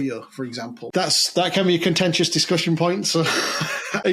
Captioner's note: laughs